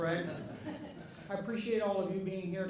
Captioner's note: audience laughing